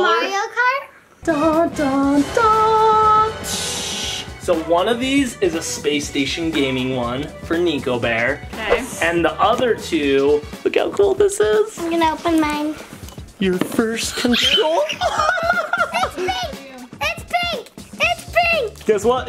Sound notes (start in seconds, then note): 1.4 vocalizing; 14.1 laughing; 14.5 screaming